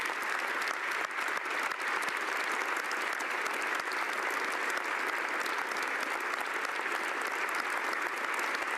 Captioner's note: applause